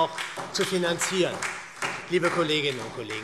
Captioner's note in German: Beifall SPD